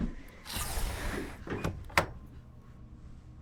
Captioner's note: window closing